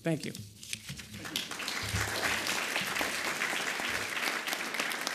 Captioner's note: audience applauds